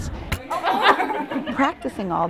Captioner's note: students laugh